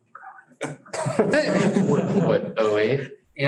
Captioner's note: laughter